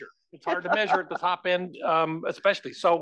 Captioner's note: laugh